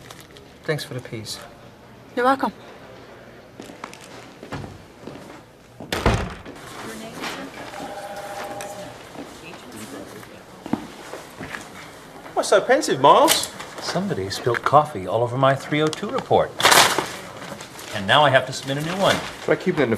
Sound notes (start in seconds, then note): 5.7 closing of door; 7.7 sighing